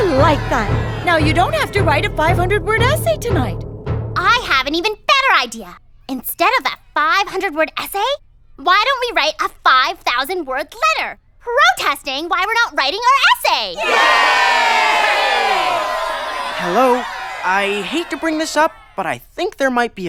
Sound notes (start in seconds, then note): 13.7 cheering